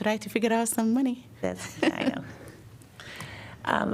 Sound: laughter

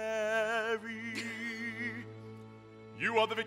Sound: Ruth laughs

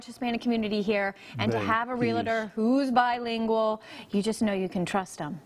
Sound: speaking spanish

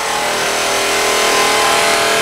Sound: sound of machine

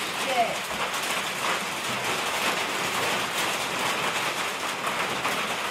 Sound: rain beating

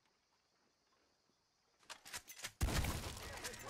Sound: gunshot

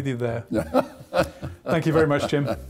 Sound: laughs

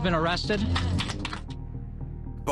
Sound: applause

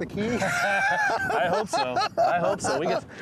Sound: both laughing

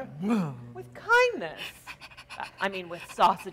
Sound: dog softly panting

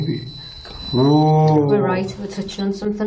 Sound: tone beeping

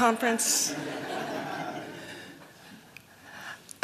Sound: laughter

